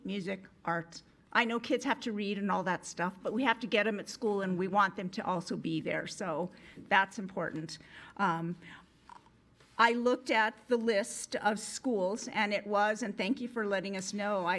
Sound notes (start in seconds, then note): none